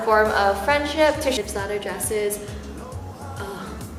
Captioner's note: sighs and laughs